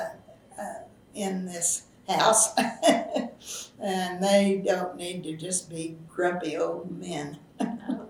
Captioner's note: laughs; laughs